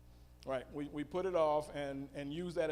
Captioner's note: female audience member speaking